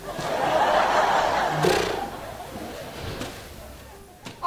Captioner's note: audience laughing